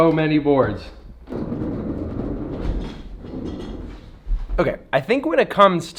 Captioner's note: chair rolling across floor